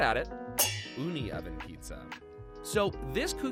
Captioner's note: metal clangs